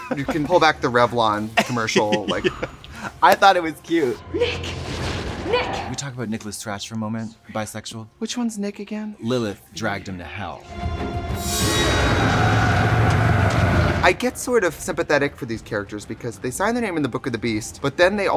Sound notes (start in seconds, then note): 1.6 laughing; 10.8 suspenseful instrumental music